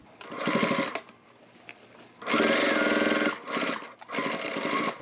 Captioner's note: sewing machine whirs